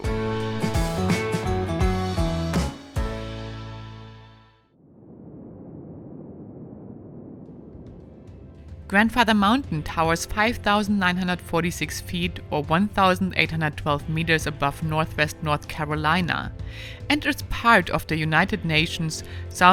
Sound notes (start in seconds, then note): 0.0 upbeat music; 4.8 wind whirring; 7.8 uplifting music